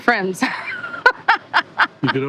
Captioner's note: laughing